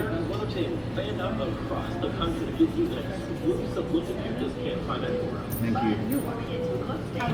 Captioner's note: radio news